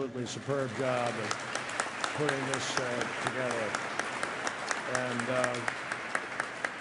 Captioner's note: applause